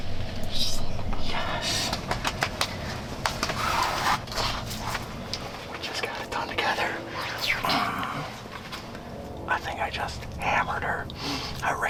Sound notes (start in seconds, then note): 1.8 clapping quietly